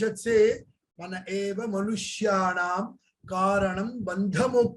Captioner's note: speaks in Hindi